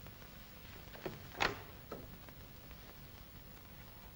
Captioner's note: door opens